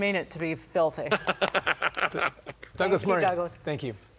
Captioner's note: laughter